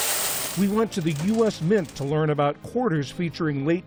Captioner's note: voice-over